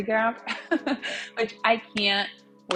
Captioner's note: laughs